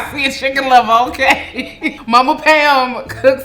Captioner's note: laughs